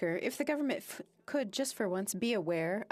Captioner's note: speaking French